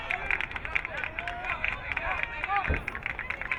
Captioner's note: crowd clapping